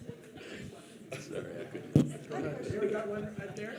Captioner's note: audience laughing